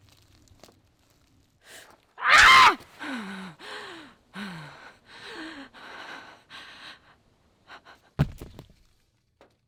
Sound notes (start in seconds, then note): 2.2 lyssa screaming; 2.9 lyssa breathing